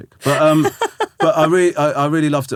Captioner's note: laughing